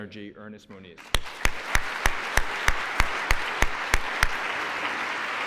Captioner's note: applause